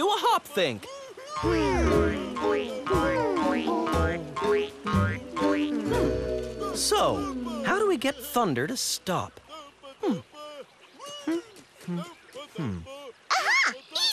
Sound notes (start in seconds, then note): 5.1 "hmm's" as they think